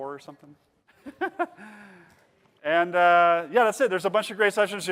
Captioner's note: laughing